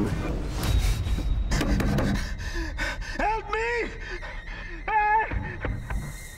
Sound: yells

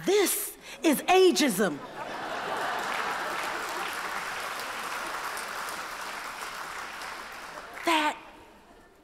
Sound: laughter

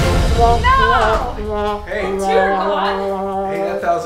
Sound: sad horn noise

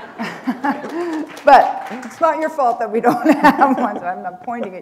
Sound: chuckle

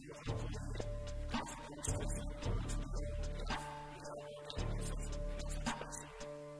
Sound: stutter

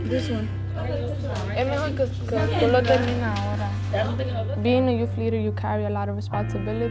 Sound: speaking in Spanish

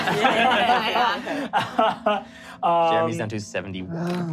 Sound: laughing

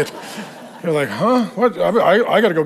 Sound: congregation laughing

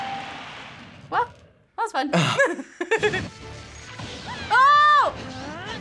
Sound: both laugh

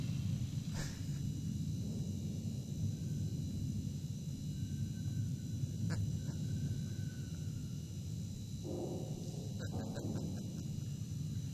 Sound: laughter

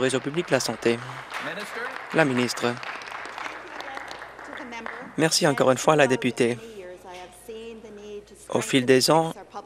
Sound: applause

